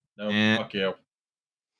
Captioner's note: buzzer noise